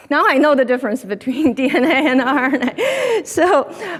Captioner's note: laughs